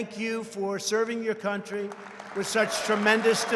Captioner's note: applause